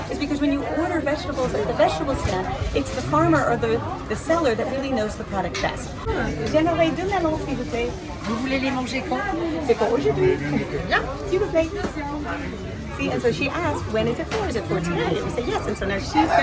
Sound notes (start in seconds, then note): 6.6 speaks French; 8.4 vendor speaks French; 9.8 speaks French; 11.0 vendor speaks French